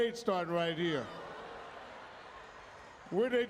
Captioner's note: audience exclaiming